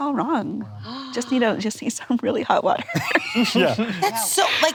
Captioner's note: laughs